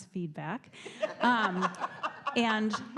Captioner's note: audience chuckles